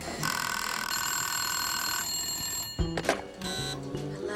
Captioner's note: phone rings